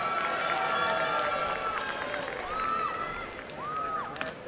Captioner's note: applause and cheering